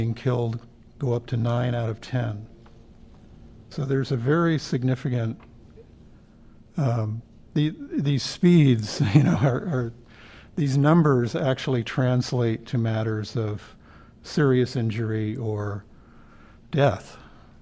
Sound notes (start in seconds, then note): 9.0 laughter